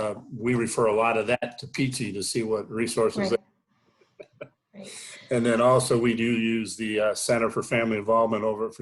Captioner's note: chuckle